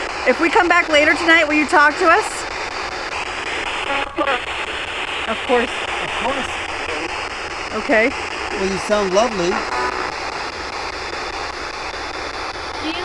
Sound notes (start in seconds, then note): 4.2 disembodied Voice; 10.9 electronic static hissing